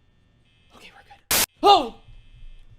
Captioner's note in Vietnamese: nhiễu